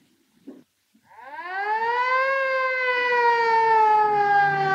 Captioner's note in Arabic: صافرة الإنذار تدوي